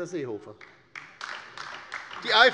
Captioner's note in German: Beifall bei der LINKEN